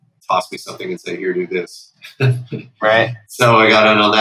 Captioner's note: laughter